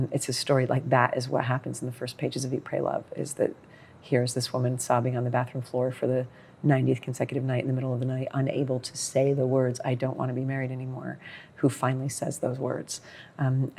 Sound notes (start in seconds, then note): none